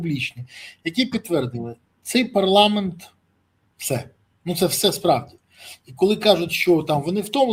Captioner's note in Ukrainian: сопіння